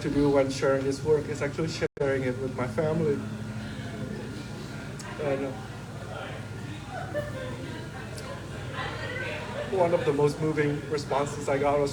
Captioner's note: laughter